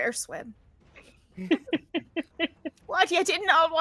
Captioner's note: laughing